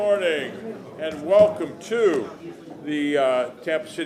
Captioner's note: sounding gavel